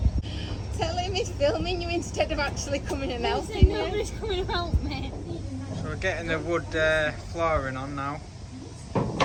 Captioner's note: laughing